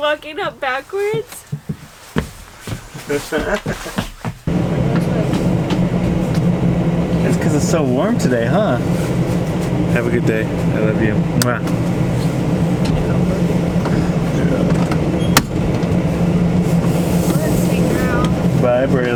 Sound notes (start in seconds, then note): 3.0 laughs